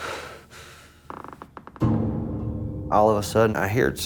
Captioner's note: wood creaking